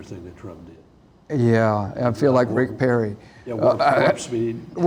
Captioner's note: laughs